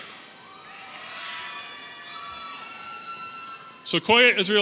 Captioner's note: audience cheering